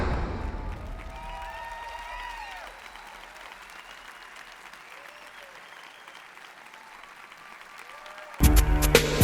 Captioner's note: applause